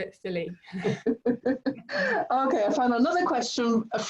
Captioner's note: laughing